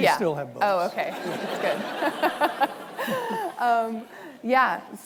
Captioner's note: laughs